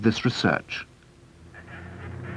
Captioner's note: street traffic sounds